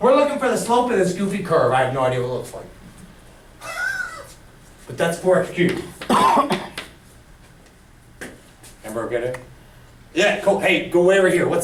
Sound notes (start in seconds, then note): 3.6 chuckles